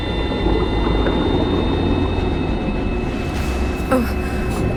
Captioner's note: water bubbling